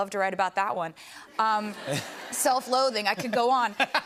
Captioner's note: laughter